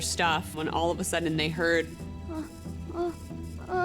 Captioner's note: moaning